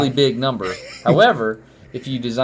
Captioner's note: laughs loudly